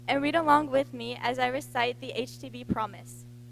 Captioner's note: none